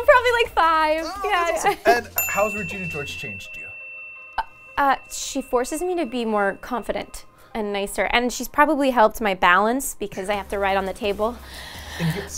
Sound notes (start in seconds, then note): 2.1 bell dings